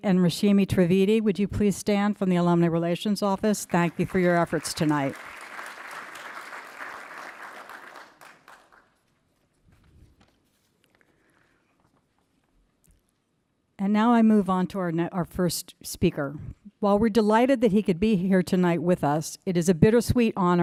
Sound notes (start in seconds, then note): 5.2 applause